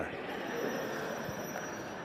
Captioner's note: bell ringing